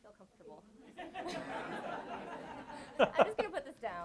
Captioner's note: audience laughs